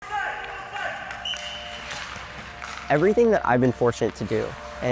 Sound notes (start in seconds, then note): 1.2 whistle blow; 1.2 skates skidding on ice